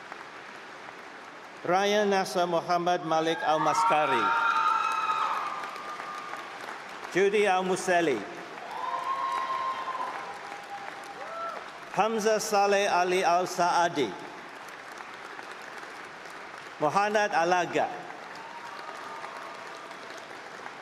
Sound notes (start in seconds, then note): 6.0 applause; 10.8 applause; 19.2 applause